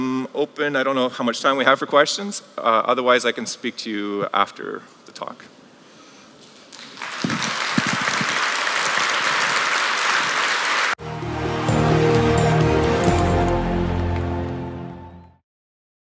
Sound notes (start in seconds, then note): 11.1 applause